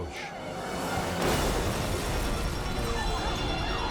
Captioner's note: bomb explodes; siren blaring